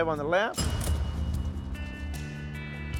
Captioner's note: cash register dings